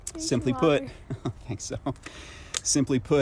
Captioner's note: laughs